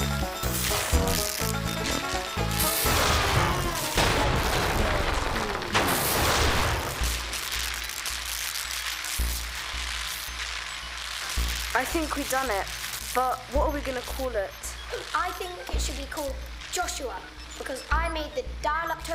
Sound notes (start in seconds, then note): 2.8 loud bang